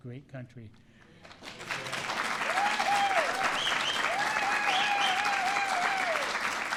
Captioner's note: applause